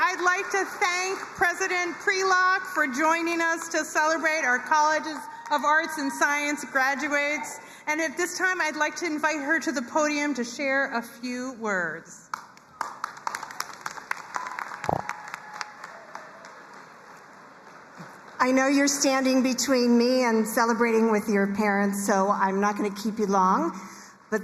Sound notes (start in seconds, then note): 12.6 crowd cheering and applauding